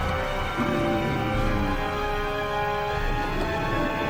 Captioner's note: zombies groaning